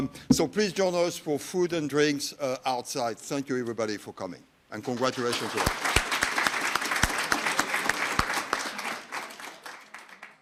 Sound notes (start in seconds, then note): 4.9 audience applauding